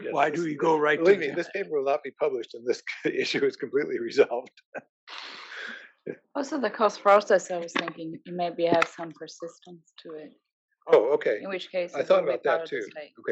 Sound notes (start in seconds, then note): 4.5 laugh